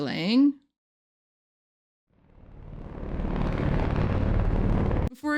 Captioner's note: violent static